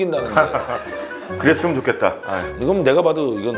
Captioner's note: hahaha; sigh